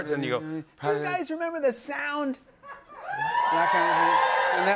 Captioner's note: cheering